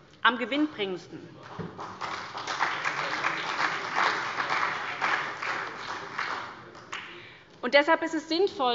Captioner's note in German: Beifall bei der SPD